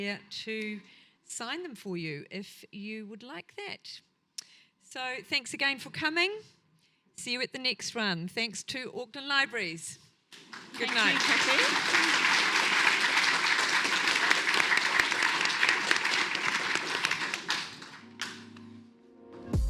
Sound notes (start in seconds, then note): 12.0 audience applauds